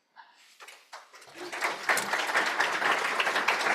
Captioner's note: applause